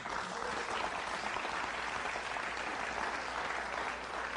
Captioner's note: applause